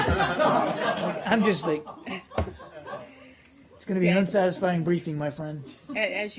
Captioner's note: laughter